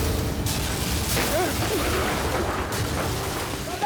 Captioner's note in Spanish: estruendo por la explosión